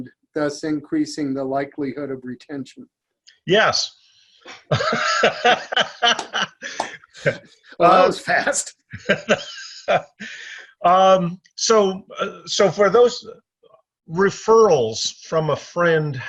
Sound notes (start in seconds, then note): 4.4 laughs